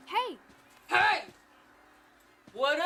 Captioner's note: high voice; low voice